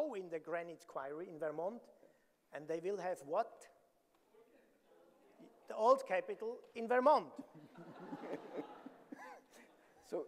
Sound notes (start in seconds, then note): 4.4 audience murmuring; 7.6 audience laughing